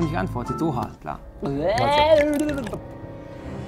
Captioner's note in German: Ekelgeräusch